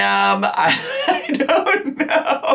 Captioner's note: laughs